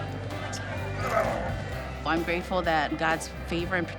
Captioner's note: lips smacking; man grunting